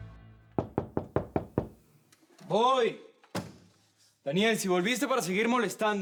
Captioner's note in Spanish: Toques en la puerta